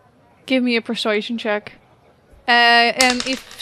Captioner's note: dice clacks